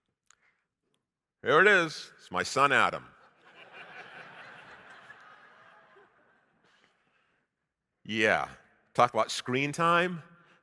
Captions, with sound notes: Here it is, it's my son Adam. (audience laughing) Yeah, talk about screen time.